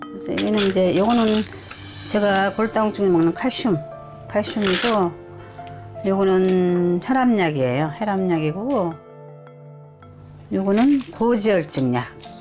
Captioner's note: voiceover